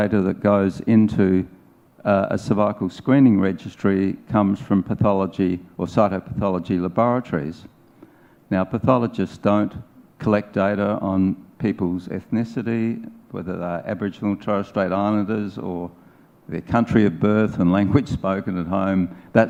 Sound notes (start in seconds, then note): 14.2 speaking in foreign language